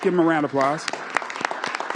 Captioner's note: applause